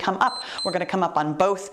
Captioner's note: timer beeps